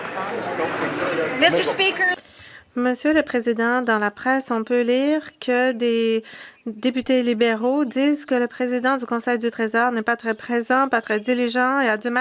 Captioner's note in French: voix de l'interprète